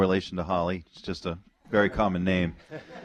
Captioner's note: audience laughter